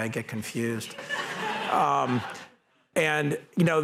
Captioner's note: laughter